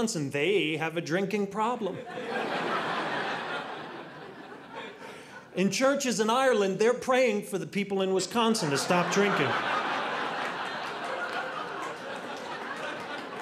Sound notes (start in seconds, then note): 2.0 audience laughing; 8.6 audience laughing